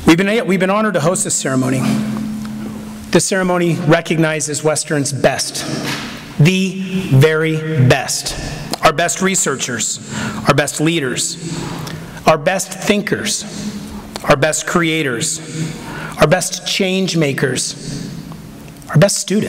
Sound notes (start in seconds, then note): none